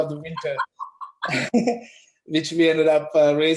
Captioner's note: laugh